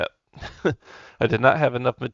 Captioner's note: chuckles